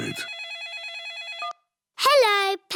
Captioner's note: phone rings